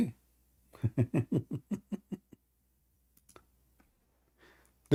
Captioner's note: Ketawa